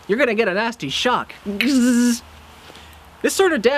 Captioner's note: vocal Sound Effect, like electricity buzzing